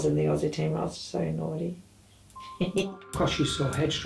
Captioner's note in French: rigole